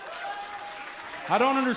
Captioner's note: cheers & applause